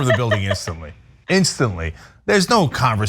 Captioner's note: laugh